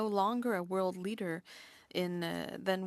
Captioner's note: speaking French